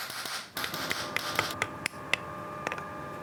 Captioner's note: whirring